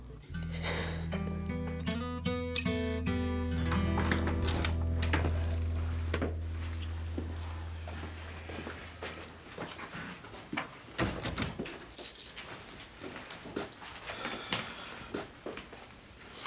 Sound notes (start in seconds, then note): 0.3 somber music; 11.9 keys rattling